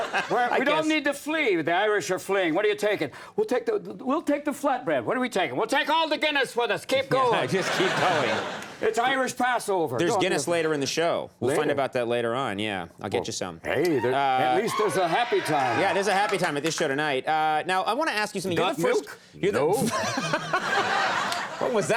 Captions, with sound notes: I don't need to flee. The Irish are fleeing. What are you taking? We'll take the flat bread. What are we taking? We'll take all the Guinness with us, keep going. (audience laughs) Just keep going. It's Irish passover. There's Guinness later in the show. We'll find about that later on, yeah. I'll get you some. Hey. (audience members scream) At least there's a happy time. Yeah, it is a happy time at this show tonight. Now I wanna ask you something- Got milk? No. (audience laughs)